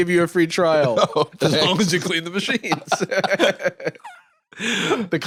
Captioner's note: both laughing